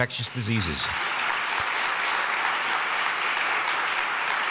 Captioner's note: audience claps